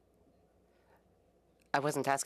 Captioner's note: speaking French